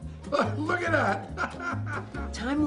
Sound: laughs

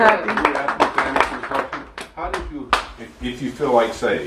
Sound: applause

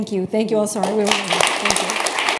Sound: applause

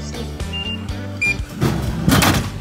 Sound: machine beeps

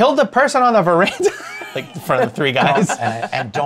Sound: laughter

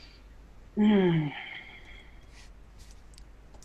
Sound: sighs

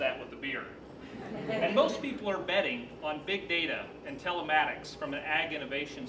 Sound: laughter

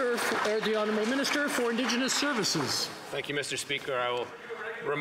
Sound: some Applause

